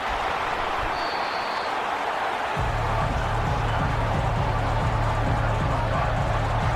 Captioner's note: crowd Noises